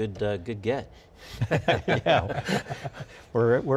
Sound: laughs

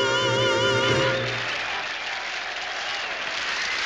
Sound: applause

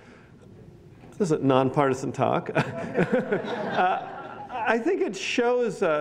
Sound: laughs

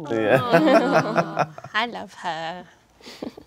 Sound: all awwing

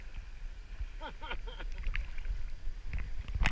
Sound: laughs

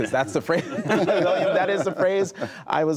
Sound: laughter

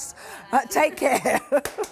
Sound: laughing

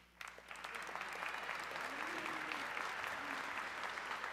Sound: audience cheering

